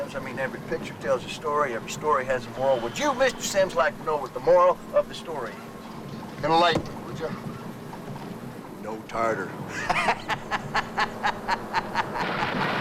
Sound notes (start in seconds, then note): 9.7 laughs